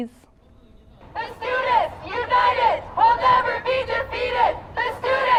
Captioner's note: chanting